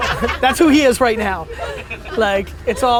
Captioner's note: laughter